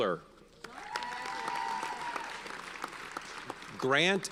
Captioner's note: audience cheers and applauds